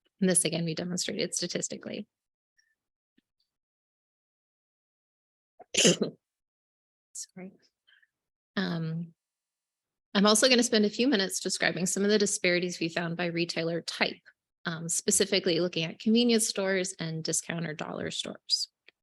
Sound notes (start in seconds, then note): 5.6 coughs